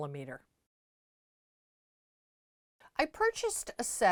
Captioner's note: no Sound Present